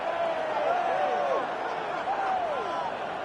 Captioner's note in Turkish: coşkulu tezahürat